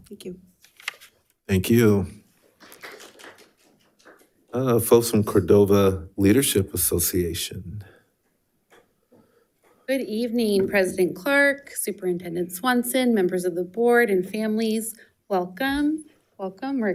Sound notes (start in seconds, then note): 2.5 attendees clapping